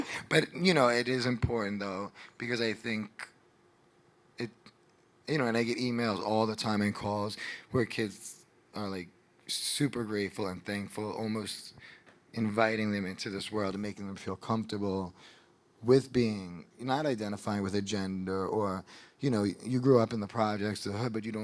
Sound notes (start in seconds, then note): none